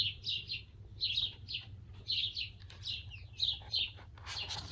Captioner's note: birds chirping